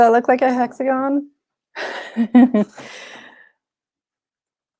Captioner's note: laughs